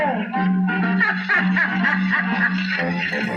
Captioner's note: laughing